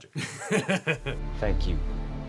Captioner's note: laughing